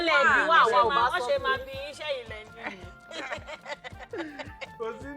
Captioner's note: laughs